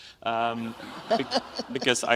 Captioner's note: audience laughs